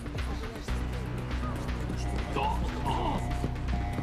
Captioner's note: alarm blaring